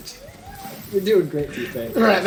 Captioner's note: laughs